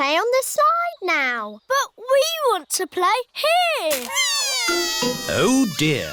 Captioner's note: crying